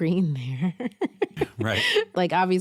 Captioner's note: chuckles